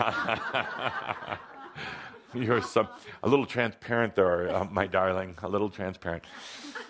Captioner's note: laughs